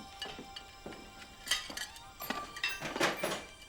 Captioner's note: plates Clinking